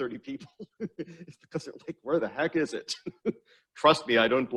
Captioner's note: laughs